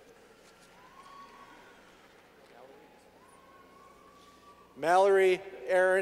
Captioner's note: clapping